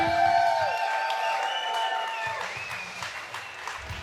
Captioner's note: crowd cheering